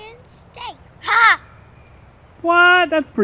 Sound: laughs; voiceover

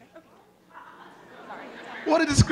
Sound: audience laughing

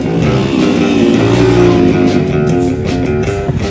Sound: brrrrrr vrrm

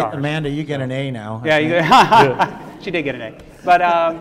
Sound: laughs

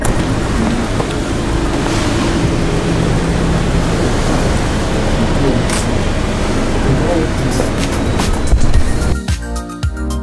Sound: engine sound

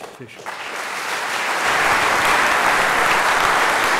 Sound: applause

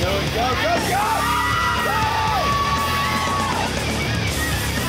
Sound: patrons cheering

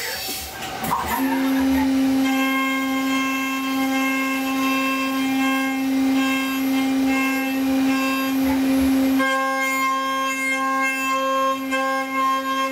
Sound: sound of rushing air during tool change and spindle raising/dropping; humming sounds from rapidly spinning cutter and material milling

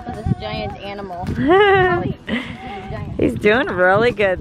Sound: camerawoman laughs

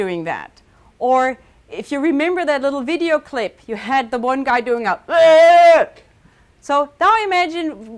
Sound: shouts

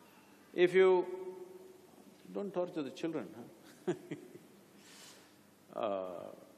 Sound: laughs

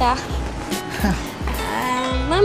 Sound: Julius chuckles

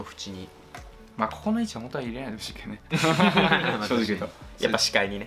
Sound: laughs

